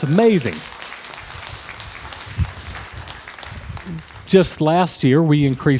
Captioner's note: crowd applause